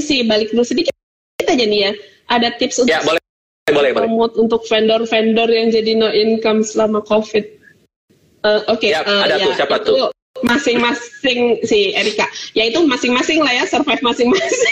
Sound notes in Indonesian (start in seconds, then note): 10.4 tertawa